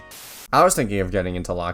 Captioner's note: static